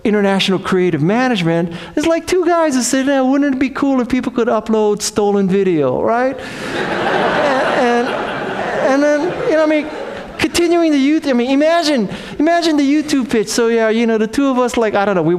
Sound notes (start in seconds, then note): 6.5 audience laughs